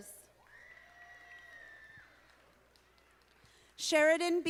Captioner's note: audience applauding